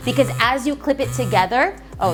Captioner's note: phone vibrating